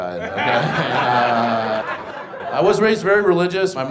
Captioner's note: audience laughs